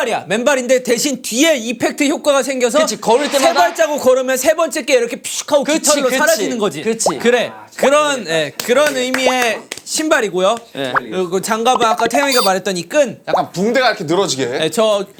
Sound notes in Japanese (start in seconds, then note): 9.1 感嘆